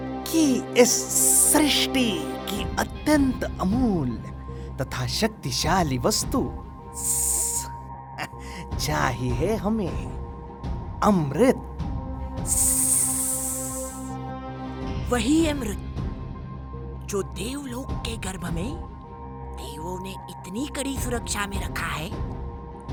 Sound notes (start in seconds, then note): 12.4 hissss